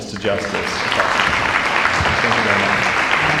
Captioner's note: applause